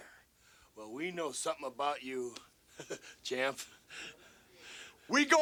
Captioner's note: laughs